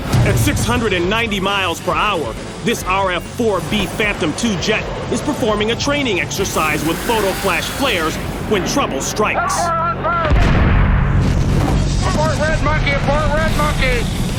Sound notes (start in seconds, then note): 10.2 explosion